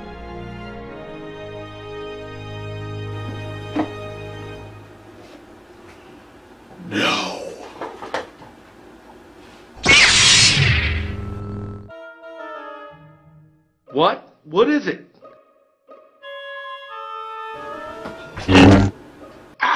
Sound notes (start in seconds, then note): 9.8 beam rod sounds; 18.4 beam rod sounds